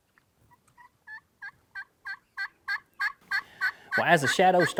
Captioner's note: gobbling grows louder